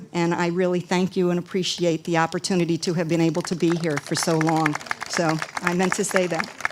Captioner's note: audience applause